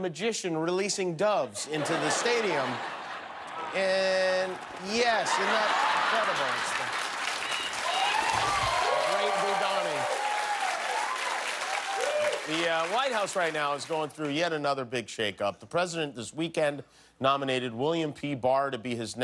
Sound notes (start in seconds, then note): 14.0 cheers and applause